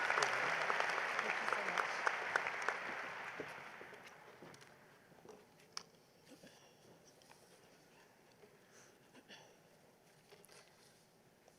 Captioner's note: applause